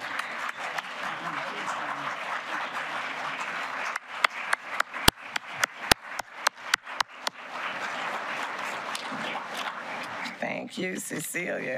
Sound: applause

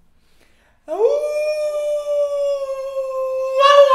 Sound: howls

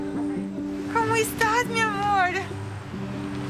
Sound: speaking Spanish

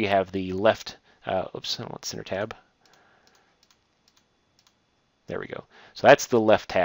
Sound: clicking

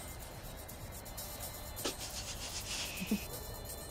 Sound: chuckling

